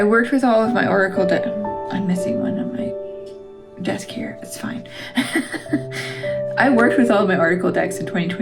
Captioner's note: laugh